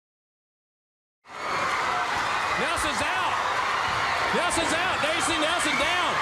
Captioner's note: crowd cheering